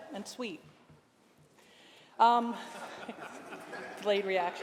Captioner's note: laughter